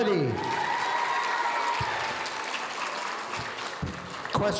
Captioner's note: audience cheering